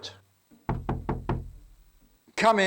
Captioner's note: knock at door